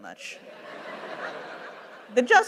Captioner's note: laughter